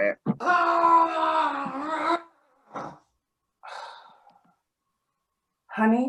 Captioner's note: even more unintelligible screaming